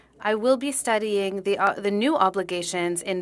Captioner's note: speaking French